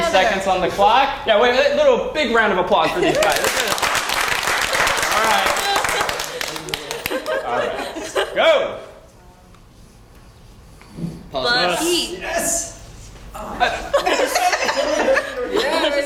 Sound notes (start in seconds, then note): 3.1 applause; 8.8 laugh